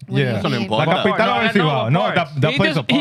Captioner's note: speaking Foreign Language